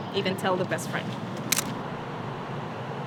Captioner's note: camera Shutter